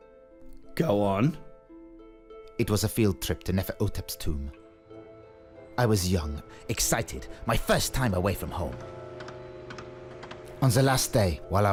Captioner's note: voice over